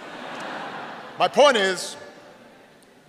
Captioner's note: laughter